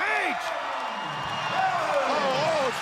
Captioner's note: crowd cheering